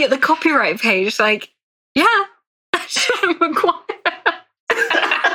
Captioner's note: laughs